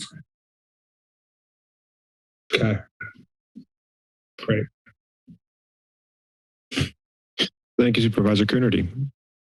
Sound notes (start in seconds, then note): 0.3 silence